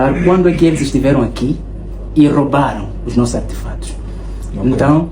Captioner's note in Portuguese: limpando a garganta